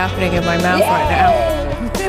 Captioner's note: laughs